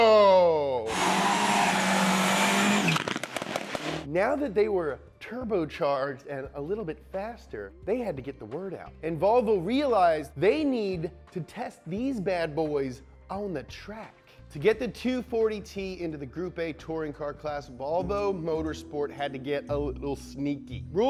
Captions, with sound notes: (car revving) Now that they were turbo-charged and a little bit faster, they had to get the word out. And Volvo realized they need to test these bad boys on the track. To get the 240-T into the group A touring car class Volvo motor sport had to get a little sneaky.